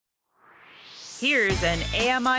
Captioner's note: swoosh